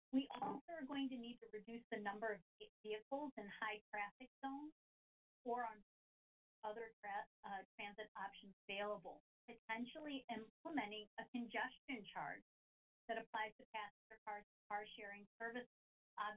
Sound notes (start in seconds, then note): none